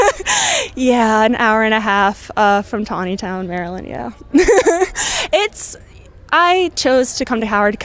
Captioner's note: laughs